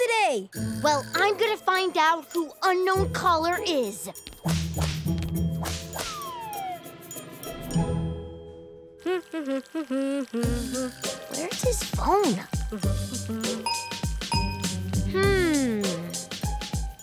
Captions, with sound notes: Well, I'm going to find out who Unknown Caller is. [humming] Where's his phone? Hmm...